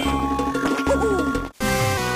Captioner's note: mario noises